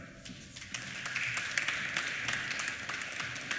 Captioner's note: applause